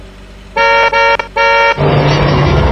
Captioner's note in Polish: klakson